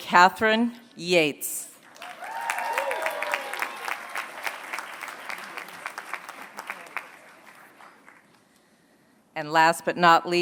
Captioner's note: applause